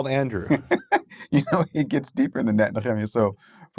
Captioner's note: laughing